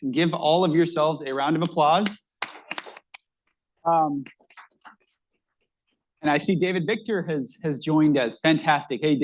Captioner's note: applause